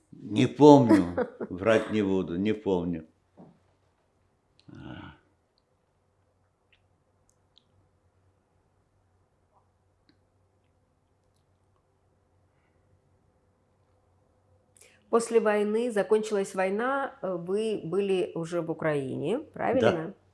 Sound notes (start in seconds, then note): 2.9 pauses 12 seconds